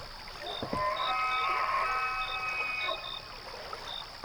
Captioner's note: Wendigo sounds